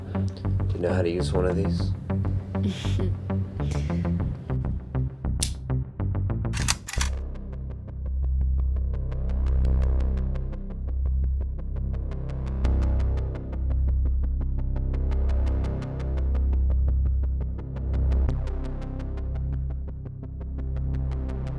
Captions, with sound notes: Do you know how to use one of these? (Dorothy chuckles) (gun clacking) (suspenseful music)